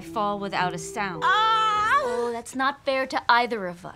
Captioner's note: shouts